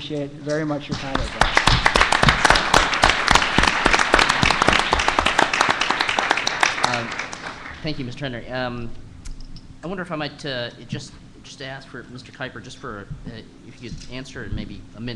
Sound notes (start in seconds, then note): 1.5 applause